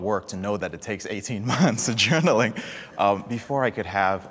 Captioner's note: laughs